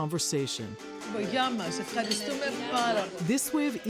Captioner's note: speaking in greek